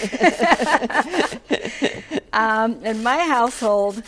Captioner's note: laughs